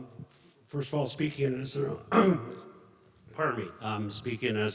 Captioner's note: clears throat